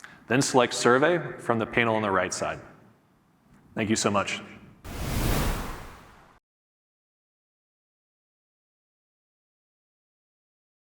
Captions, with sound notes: then select survey from the panel on the right side. Thank you so much. (air whooshing)